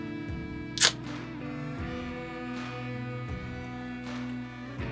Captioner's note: can top cracks